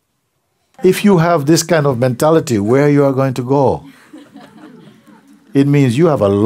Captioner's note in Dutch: gelach